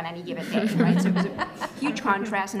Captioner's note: laughter